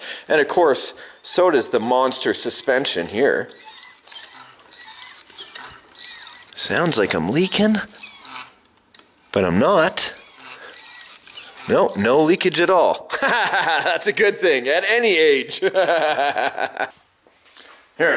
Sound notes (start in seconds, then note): 4.1 springs creaking; 17.0 laughing